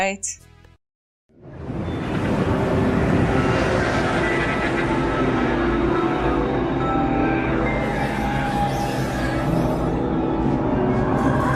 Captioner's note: menacing sounds and voices calling